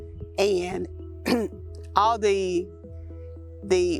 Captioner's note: clears throat